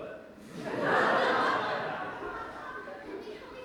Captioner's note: audience laughs